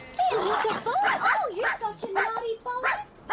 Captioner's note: dog barking